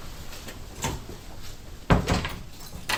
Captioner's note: door clacks; latch clunks; keys jangle